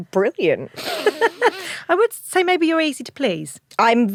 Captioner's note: laughs